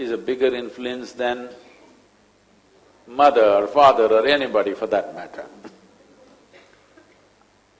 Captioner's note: laughs